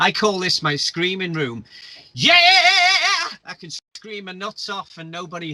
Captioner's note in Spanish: y grita